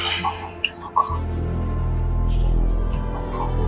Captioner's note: whispered